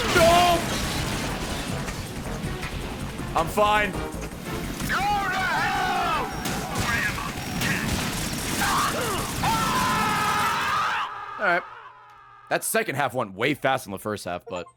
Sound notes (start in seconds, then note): 8.5 screams